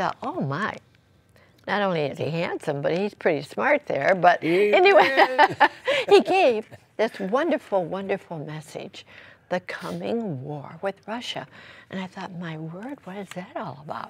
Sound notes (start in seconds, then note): 4.4 laughter